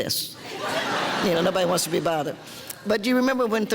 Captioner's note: audience laughter